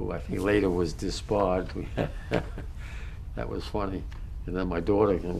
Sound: laughs

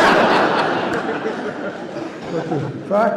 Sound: laughter

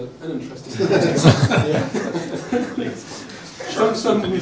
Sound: laughter

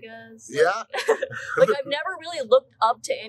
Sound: laughs

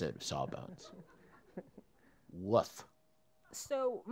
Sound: laugh

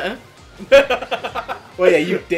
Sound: she laughs

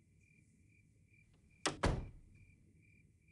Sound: door closes

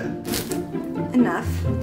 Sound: knife slicing

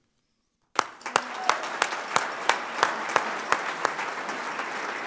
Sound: audience applauding

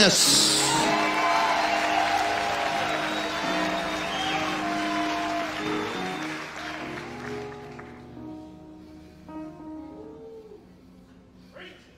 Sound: audience cheers and applauds

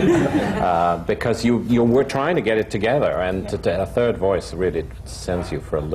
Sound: laughter

